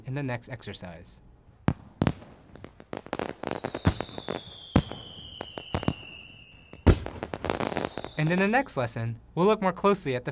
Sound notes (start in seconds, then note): 1.8 explosions; 1.8 whistling